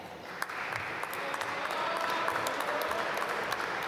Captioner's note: applause